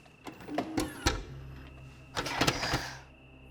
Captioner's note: VCR whirs